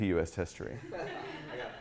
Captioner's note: laughing